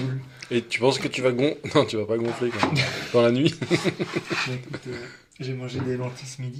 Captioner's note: laughs